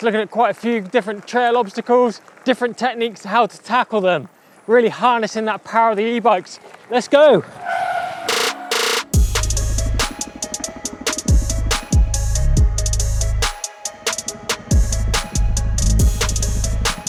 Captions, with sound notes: looking at quite a few different trail obstacles, different techniques, how to tackle them. Really harnessing that power of that E-bikes. Let's go! (tires screeching) (upbeat electronic music)